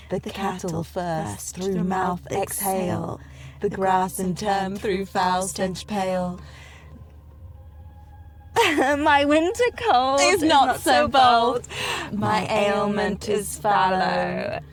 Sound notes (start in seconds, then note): 8.6 laughs